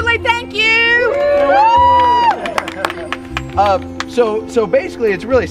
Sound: group cheering

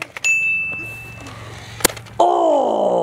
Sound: light ding; car clatters

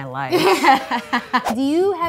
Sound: laughing

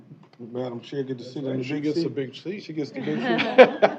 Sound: laughter

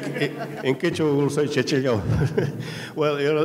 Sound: speaking in a foreign language

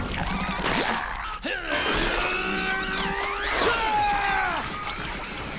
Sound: grunting

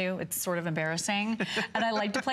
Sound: laughter

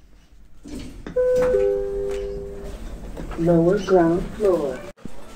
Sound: chime

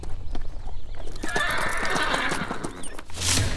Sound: horse neighing

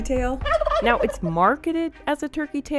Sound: turkey cackling

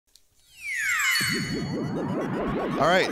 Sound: game startup noises

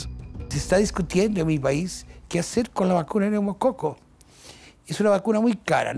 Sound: Spanish

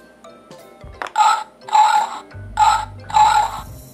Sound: pig Sound

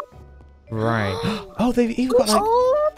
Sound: gasp

